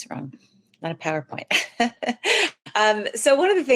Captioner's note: laughs